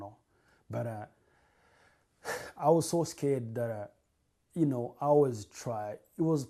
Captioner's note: sighs